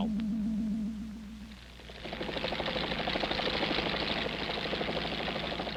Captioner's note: helicopter rotors beating